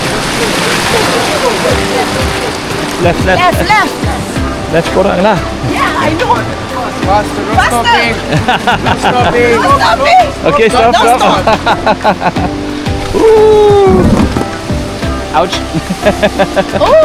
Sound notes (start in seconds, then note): 8.6 laugh; 12.8 laugh; 15.8 laugh